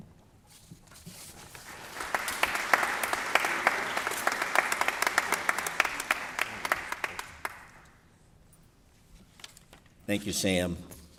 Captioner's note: applause